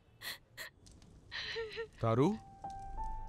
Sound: sobbing

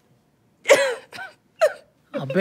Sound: sobbing

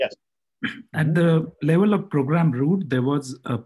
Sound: calm Voice

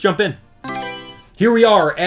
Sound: Mario Selection Sound

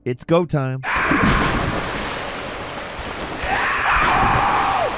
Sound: labyrinth sage screaming

